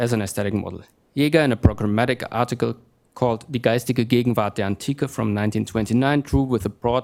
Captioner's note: speaking german